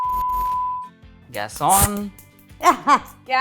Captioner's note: fake match stick noise